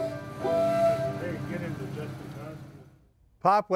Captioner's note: steam whistle blows